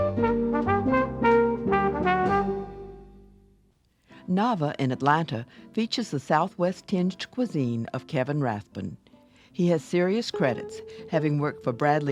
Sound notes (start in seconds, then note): 0.0 jazzy trumpet jingle; 4.2 voiceover